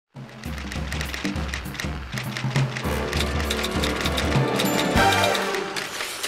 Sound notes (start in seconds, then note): 0.2 dramatic upbeat music; 0.8 keys clacking